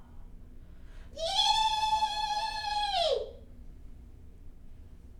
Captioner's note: shouting loudly